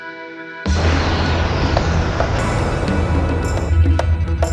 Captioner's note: engine sound